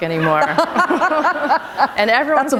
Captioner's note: laughter